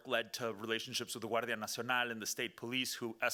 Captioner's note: speaking Spanish